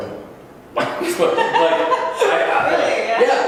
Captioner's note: laughs